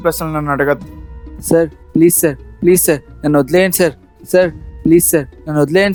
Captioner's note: pleading